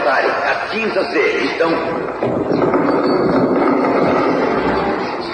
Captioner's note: banging